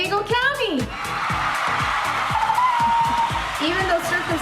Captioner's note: upbeat music continues; applause